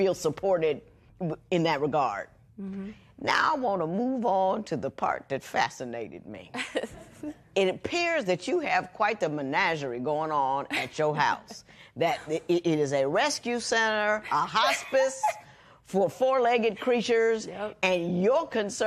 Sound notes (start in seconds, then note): 9.1 laughs